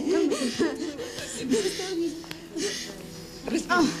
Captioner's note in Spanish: Sollozos